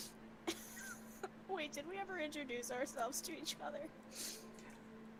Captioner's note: laughing